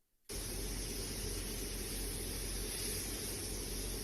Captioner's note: air whooshing